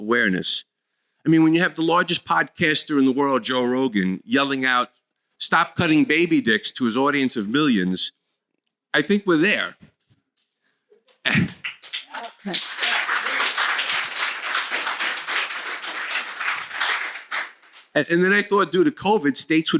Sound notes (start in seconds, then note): 17.8 applause